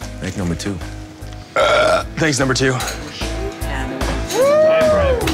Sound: belching

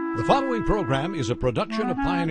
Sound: voiceover

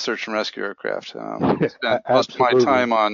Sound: laugh

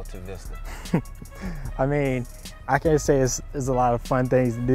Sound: laughs

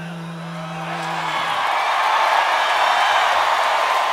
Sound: audience cheers

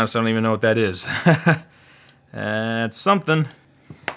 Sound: chuckles

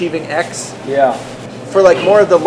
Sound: voiceover

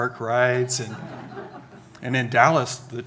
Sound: audience laughing

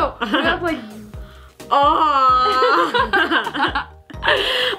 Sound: laughs

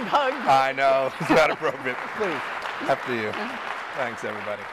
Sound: applause

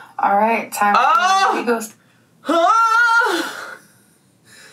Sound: yelling

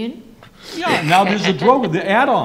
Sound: laughter muffles voice

